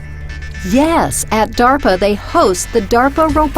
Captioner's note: voiceover